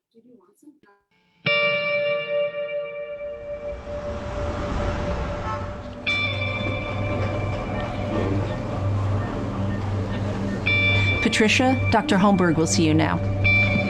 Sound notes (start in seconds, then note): 1.7 gentle music; 5.6 horns honking